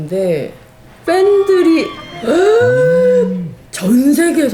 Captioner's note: gasps